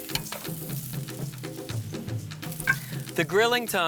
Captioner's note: polenta sizzling